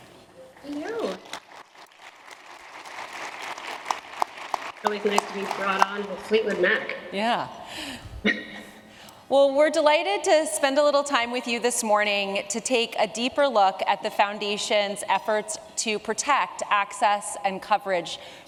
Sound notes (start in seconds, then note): 0.7 applause; 8.7 laughs